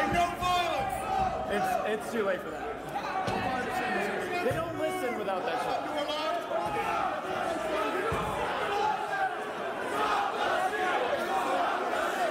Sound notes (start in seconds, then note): 1.5 yelling